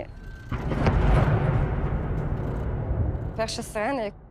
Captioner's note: air raid siren blaring and explosions